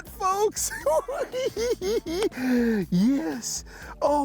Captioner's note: cackling